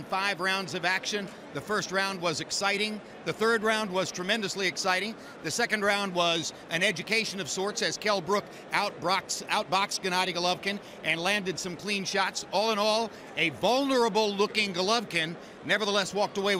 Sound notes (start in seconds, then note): none